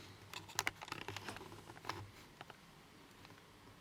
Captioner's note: camera clattering